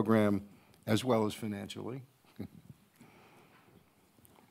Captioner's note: laughs